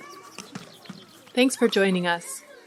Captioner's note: audio clip of voices of kindergarteners on playground fades in